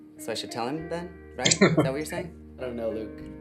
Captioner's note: chuckling